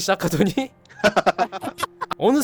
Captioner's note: laughing